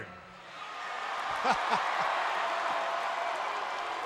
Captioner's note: crowd cheering